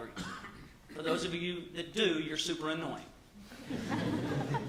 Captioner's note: laughter